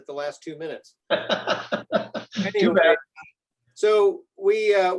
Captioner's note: laughs